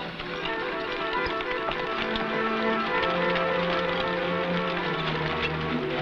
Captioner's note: horse hooves pattering